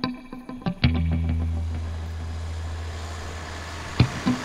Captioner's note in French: vrombissement lointain de moteur